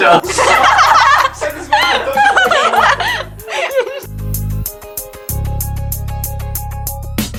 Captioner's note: incoherent laughter